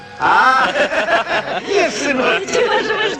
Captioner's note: laugh